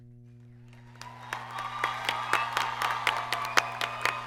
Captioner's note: applause